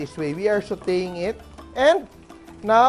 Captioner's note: sizzle